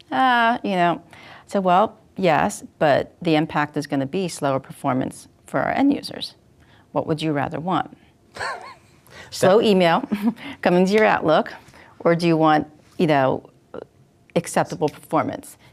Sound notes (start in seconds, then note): 8.3 laughs